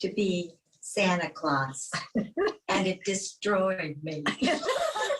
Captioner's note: laughs